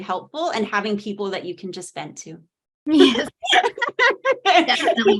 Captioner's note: laughing